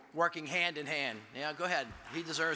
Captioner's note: audience applauds